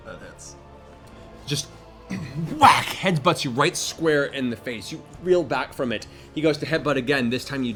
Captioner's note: whack